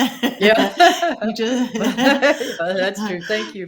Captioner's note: both laughing